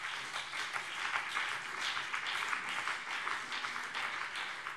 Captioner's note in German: Beifall BÜNDNIS 90/DIE GRÜNEN und vereinzelt CDU